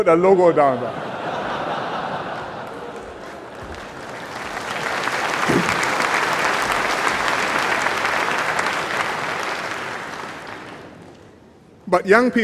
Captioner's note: laughter and applause